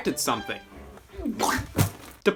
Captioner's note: pukes